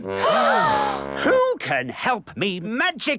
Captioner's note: all gasp